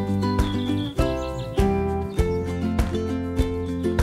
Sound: birds chirping

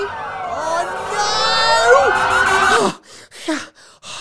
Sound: sirens wailing

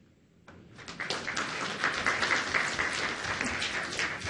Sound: audience applauds

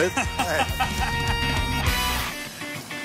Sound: laughs

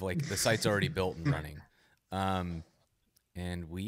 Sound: laughs

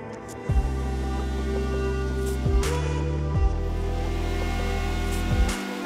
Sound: relaxing music; router buzzing in the background

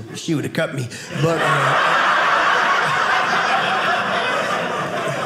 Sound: audience laughing

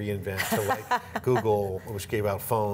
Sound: laughs

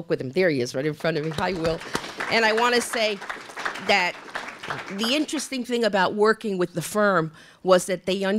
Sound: applause

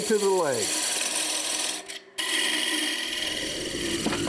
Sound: tool buzzing

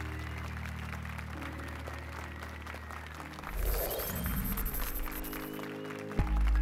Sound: applause and cheers

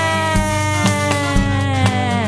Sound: animal sound: snake ssss

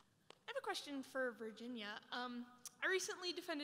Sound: voiceover

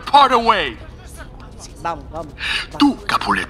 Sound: crowd scattering

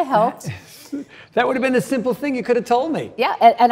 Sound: chuckles

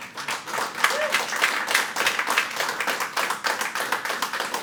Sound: audience applauding

